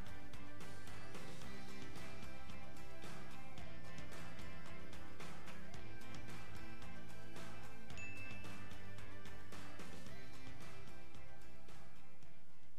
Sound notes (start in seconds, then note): 7.9 bell dinging